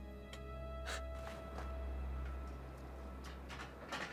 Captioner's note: Gavin sighs